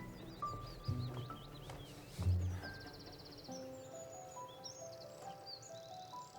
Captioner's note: birds singing